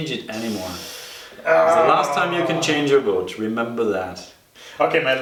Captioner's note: growls